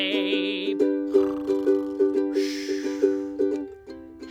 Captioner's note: loud snoring; speaks quietly